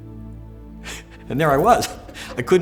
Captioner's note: laughing